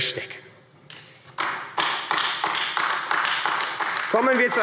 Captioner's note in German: Beifall AfD